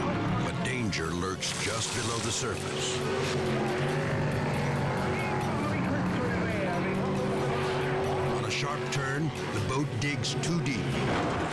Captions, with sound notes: but danger lurks just below the surface. (driver and passenger chattering) On a sharp turn, the boat digs too deep.